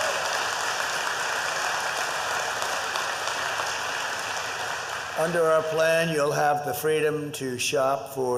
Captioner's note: applause